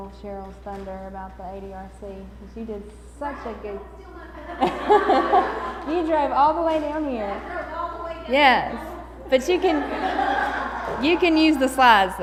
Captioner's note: laughter